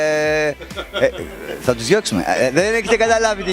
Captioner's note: laughing